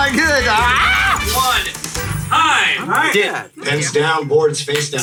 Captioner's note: loudly shrieks